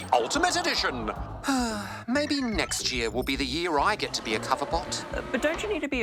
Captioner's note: sighs